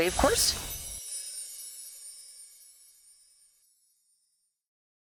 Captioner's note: computer-generated wind chimes